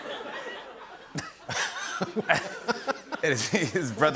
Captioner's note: laughter